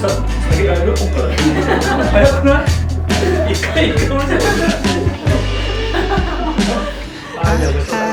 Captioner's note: laughs